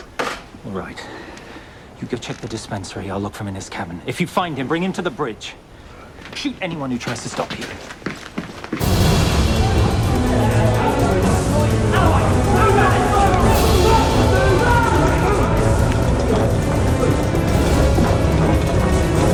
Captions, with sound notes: - All right, you go check the dispensary. I'll look for him in his cabin. If you find him, bring him to the bridge. Shoot anyone who tries to stop you. (dramatic music) (men yelling)